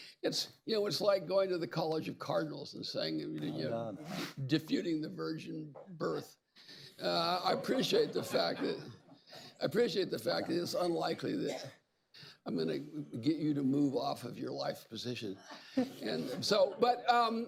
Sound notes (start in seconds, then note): 7.4 laughter; 15.4 laughter